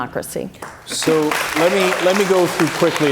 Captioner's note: cheers and applause